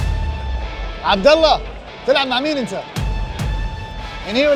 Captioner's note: in Arabic